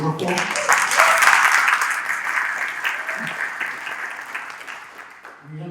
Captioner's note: applause